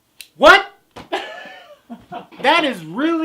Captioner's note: laughter